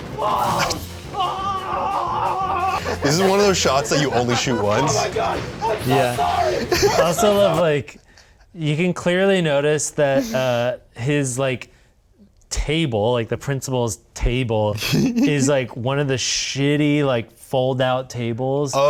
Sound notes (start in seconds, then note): 1.1 screaming balls